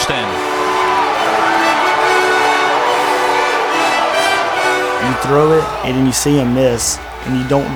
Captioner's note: cheering